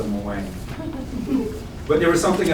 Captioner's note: audience member chuckles